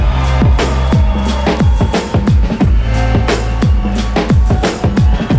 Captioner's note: applause